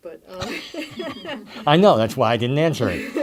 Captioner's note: laughter